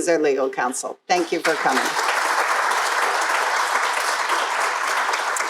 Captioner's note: crowd applauding